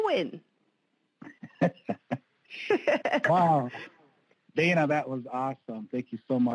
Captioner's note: chuckles